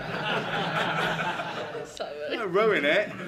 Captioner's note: laughter